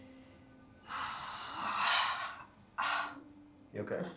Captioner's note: sharp aching pain sound